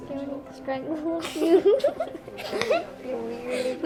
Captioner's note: boys laugh